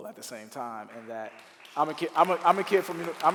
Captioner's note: clapping